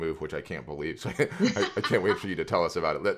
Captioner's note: laughs